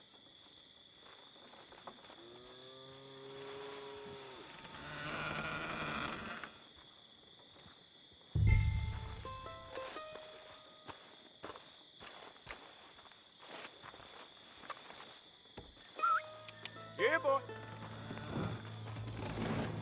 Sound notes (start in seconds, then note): 16.0 enters the barn and makes calling whistles